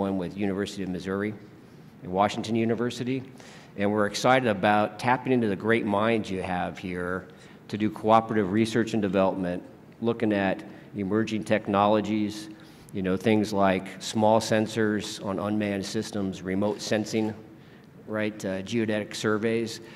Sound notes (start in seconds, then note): none